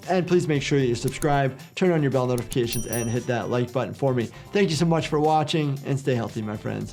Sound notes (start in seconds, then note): 2.4 bell chiming